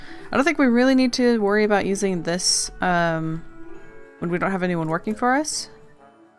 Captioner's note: none